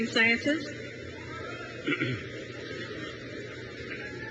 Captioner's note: crowd cheers